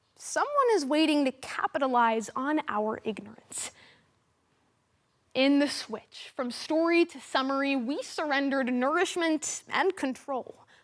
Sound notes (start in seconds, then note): 3.8 silence